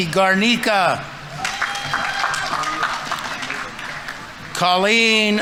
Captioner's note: audience members cheering; audience applauding